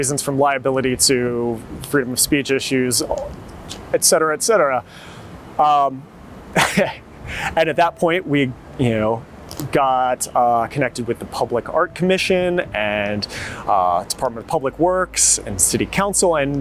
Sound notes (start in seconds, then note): 6.6 chuckles